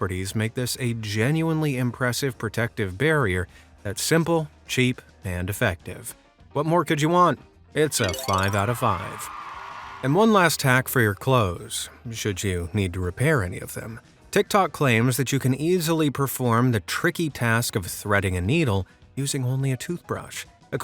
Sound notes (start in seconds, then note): 8.1 crowd cheering and applause